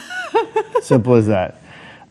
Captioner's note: laughing